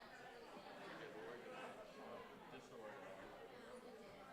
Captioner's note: group chattering